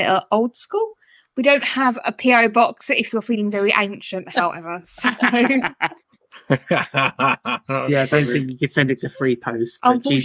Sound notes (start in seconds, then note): 6.4 laughing